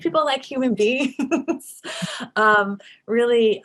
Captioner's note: laughs